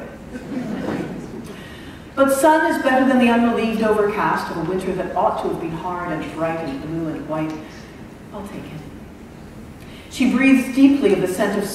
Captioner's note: laughter